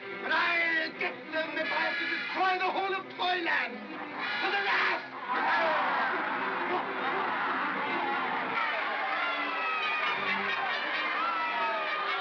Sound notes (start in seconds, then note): 6.0 growling; 6.0 suspenseful music; 8.5 mob cheering; 9.8 ominous music